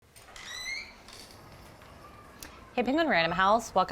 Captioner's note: door creaking open